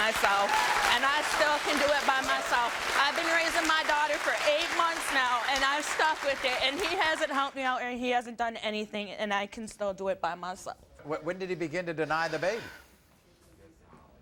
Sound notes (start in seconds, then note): 2.4 applauding